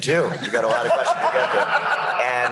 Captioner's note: laughter